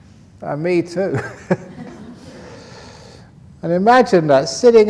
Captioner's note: laughter